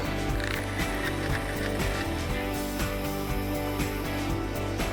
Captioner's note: fishing reel unwinding